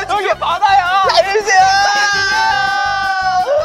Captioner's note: crying